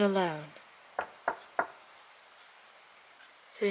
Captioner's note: knock